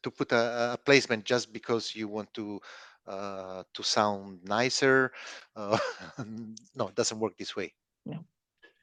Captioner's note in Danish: chuckles